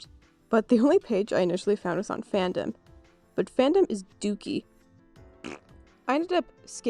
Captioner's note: fart noise